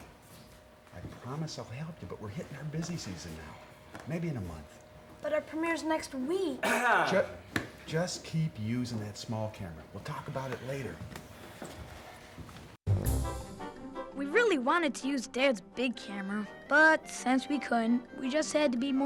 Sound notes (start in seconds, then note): 6.6 clears throat; 12.9 upbeat orchestral music